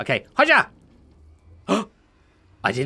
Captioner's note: gasps